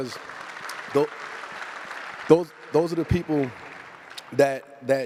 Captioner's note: applause